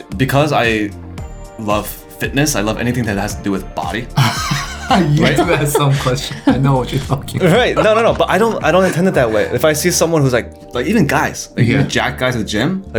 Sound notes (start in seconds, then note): 5.1 faintly speaking